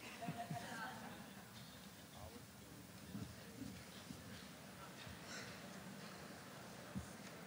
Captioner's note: laughter